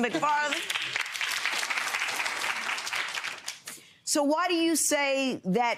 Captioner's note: audience applauds